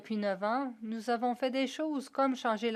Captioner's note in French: voix de l'interprète